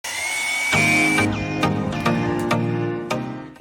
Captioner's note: saw whirring, upbeat music